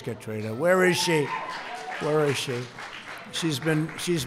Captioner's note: applause